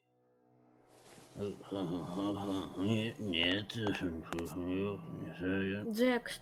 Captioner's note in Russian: бурчит под нос